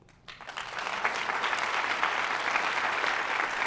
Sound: applause

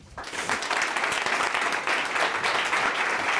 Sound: applause

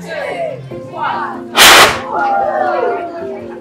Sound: whoosh

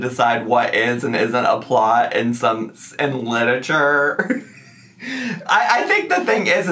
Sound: laughs

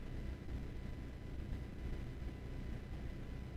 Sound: none

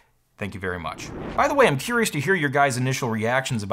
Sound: swoosh

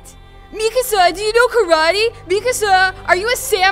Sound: mocking their voices

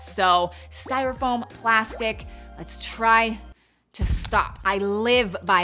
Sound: bubbles popping; booming sounds

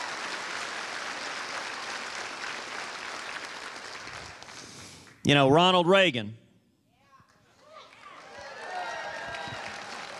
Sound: cheers and applause

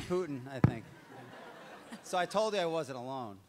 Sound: audience laughs

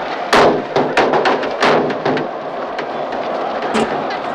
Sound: cans banging

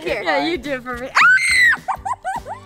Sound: screams and laughs

